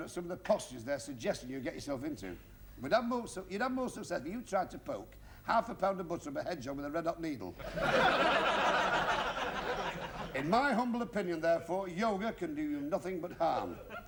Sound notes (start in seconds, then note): 7.6 laughter